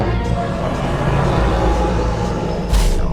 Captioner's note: dinosaur growling; footsteps stomping